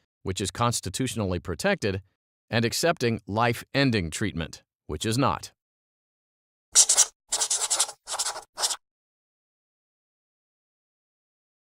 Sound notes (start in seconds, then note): 6.7 pen scratching